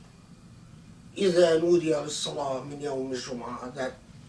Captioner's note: Arabic